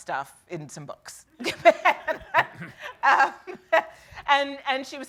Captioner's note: laughing